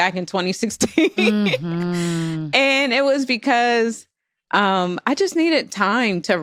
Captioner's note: laughs